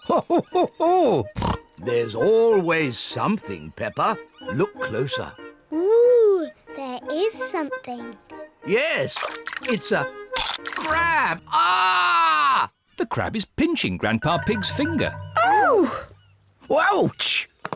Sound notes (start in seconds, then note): 10.3 crunch; 11.4 screams